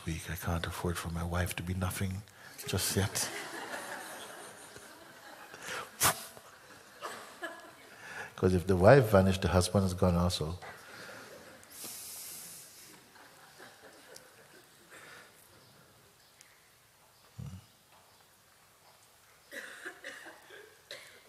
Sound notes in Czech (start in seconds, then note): 3.0 smích; 12.9 ticho